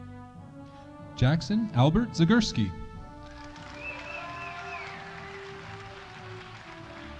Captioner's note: audience cheering